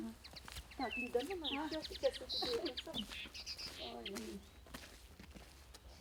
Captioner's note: women talking